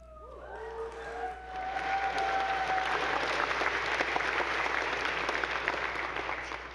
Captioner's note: audience cheering; attendees applauding